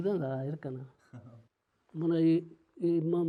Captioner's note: chckles